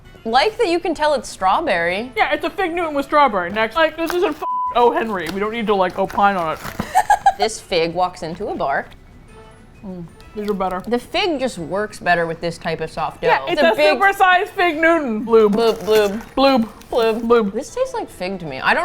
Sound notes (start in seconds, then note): 6.7 laughs